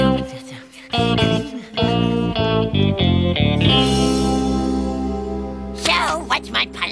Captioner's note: whispering